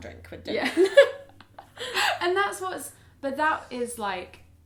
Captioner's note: laughs